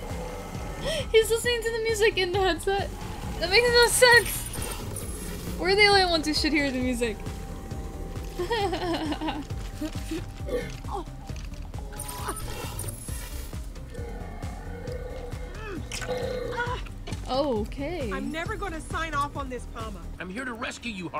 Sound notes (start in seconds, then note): 8.4 Sabrina giggles; 13.4 robotic static